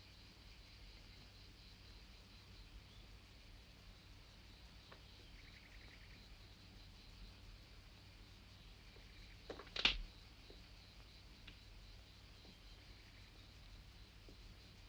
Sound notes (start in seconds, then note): 9.5 branch snaps